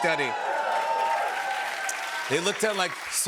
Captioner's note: cheers and applause